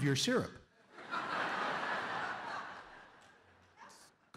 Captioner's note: laughter